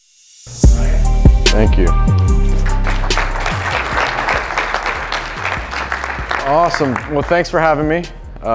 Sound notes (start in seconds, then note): 2.5 applause